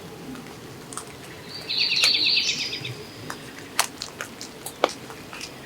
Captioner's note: birds chirping